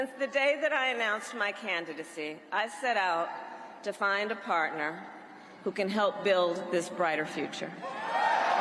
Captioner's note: cheers and applause